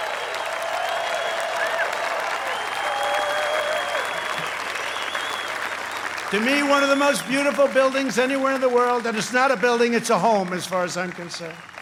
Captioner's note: applause